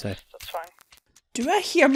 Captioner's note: over the phone